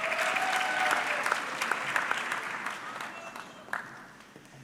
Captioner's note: audience clapping